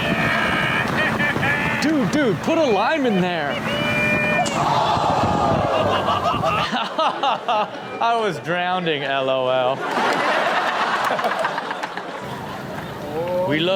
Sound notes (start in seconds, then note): 0.2 man exclaims; 4.8 audience exclaims; 5.5 laughs; 9.7 everyone laughing